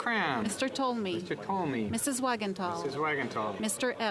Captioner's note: speaking French